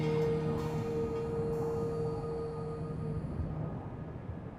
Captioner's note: wind blowing